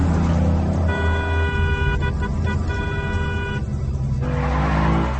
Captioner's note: tense music continues; horn honking; tense music continues